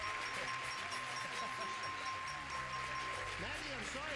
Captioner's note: laughing